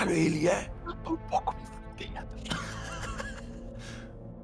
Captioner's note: laugh